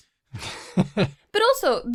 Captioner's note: chuckles